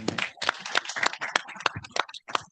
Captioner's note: audience applauds